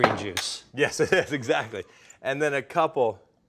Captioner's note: laughing